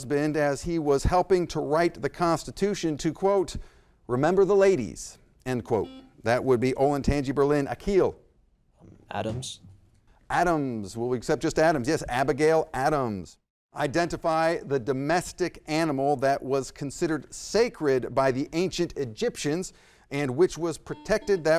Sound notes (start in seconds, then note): 5.8 buzzer blaring